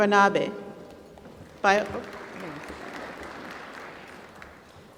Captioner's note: applause